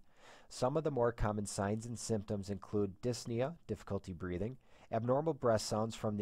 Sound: difficulty breathing

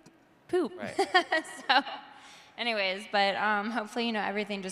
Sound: laughing

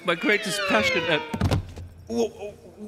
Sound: thud

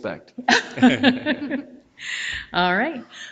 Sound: people chuckle

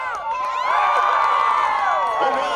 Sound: crowd cheering

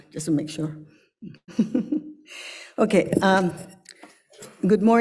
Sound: chuckles

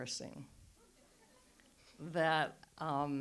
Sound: audience laughs

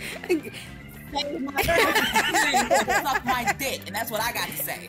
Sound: laugh

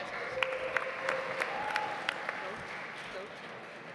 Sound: audience applauds

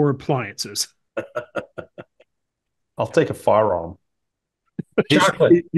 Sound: laugh

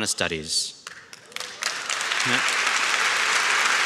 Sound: claps

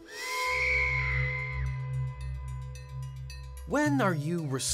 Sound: tense music; woman screams

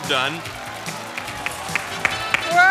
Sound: applause

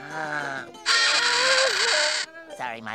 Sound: squeaking

